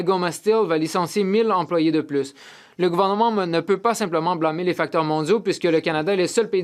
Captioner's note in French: voix de l'interprète